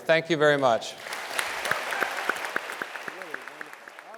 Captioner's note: audience applauding